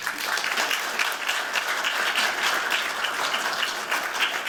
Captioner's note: applause